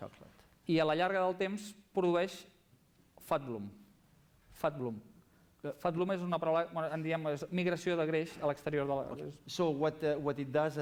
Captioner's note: non-english speech